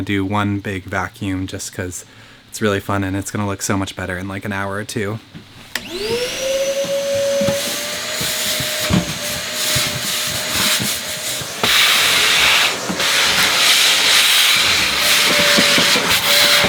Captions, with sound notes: do one big vacuum just 'cause it's really fun and it's gonna look so much better in an hour or two. (vacuum whirs)